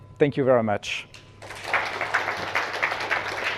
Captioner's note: applause